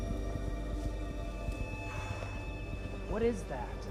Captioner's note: exhales; flies buzzing